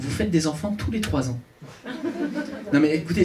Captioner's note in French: rires public